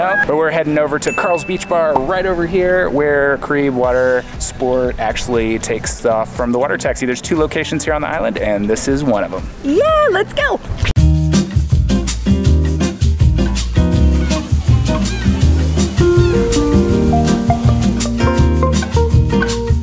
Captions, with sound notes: But we're heading over to Karel's Beach Bar, right over here, where Caribe Water Sport actually takes off from the water taxi. There's two locations here on the island and this is one of them. - Yeah, let's go. (upbeat music) (birds squawking)